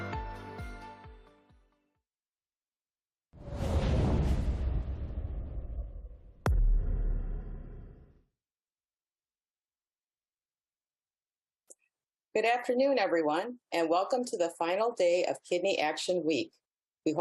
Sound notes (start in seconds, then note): 3.4 graphics whoosh; 6.8 boom echoes